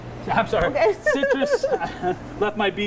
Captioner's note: laughs; chuckles